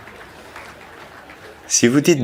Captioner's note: applause